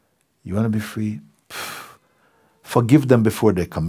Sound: strong exhale

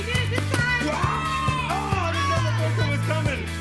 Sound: cheering

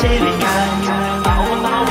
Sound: "-keit" echos

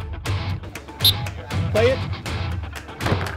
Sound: whistle

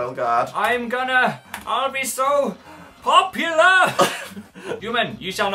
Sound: both laugh

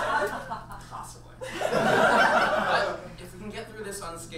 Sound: audience laughs

